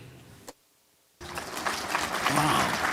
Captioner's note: applause